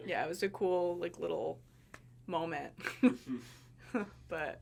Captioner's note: laughing